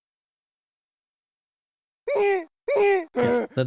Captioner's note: game grunting noises